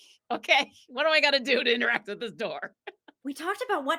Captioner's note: laughs